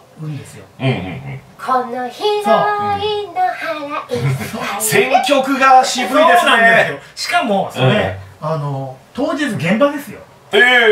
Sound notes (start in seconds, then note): 7.3 laughs